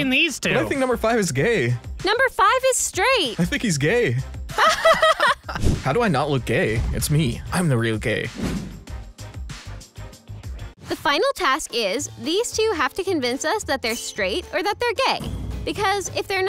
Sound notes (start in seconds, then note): 4.6 laughs